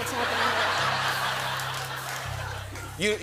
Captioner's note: laughter and applause